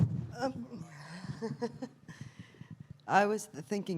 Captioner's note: laughs